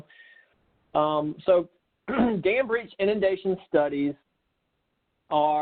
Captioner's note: clearing throat